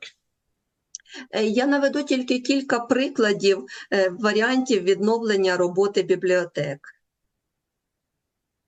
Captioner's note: foreign language